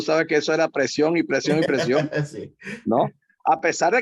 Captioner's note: laugh